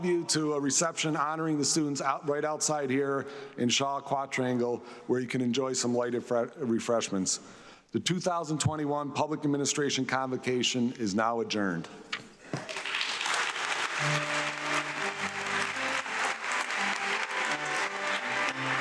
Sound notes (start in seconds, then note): 12.5 audience clapping; 15.5 upbeat music